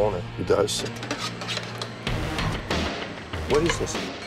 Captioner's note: utensil scraping